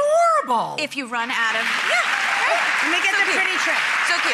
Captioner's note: applause